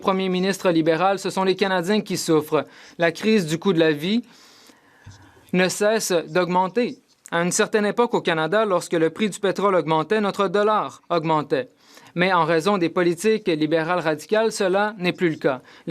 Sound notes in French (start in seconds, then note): 3.0 voix de l'interprète